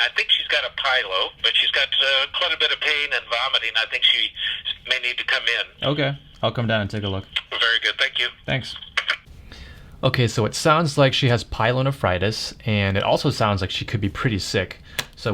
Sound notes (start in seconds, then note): 7.7 radio Chatter